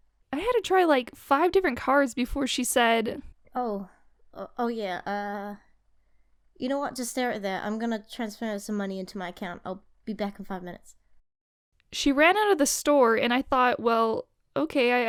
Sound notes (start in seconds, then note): none